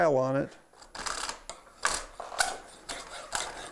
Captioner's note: metal-on-metal scraping